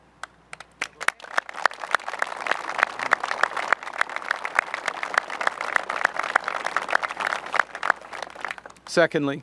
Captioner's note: applause